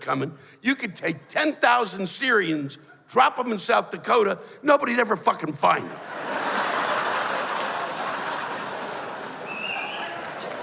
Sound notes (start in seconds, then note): 5.9 laughter